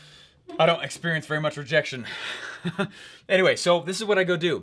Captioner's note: laughs